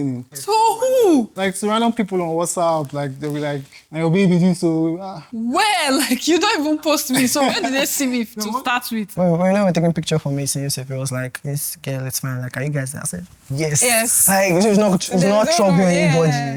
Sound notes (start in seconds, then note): 7.2 laughs